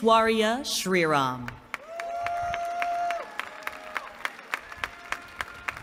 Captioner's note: applause